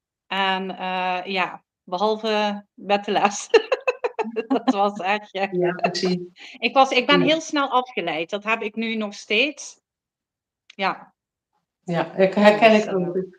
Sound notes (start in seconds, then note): 3.4 laughs